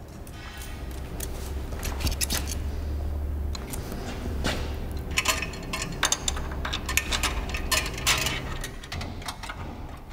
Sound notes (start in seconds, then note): 5.8 metallic noises